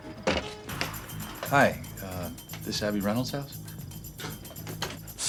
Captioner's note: scoffs